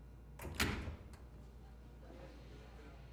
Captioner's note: door opens in distance